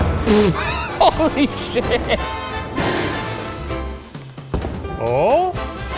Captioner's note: laughing